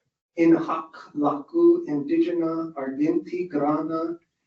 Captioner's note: speaking Latin